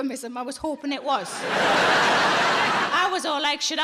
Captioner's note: audience laughing